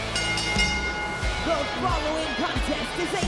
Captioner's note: bell rings